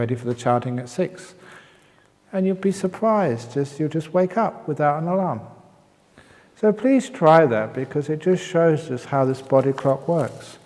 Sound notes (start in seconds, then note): none